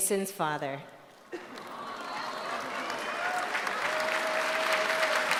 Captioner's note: applause